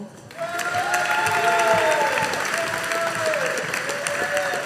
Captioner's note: audience applauding